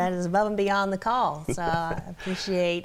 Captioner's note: laughs